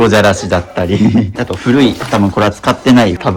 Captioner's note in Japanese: 笑い